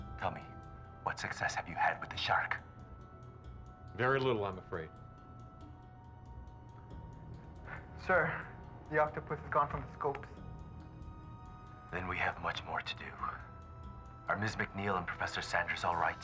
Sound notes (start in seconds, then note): none